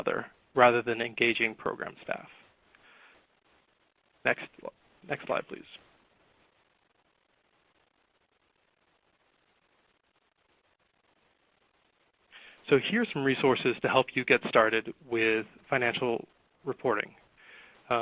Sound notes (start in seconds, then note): 6.2 silence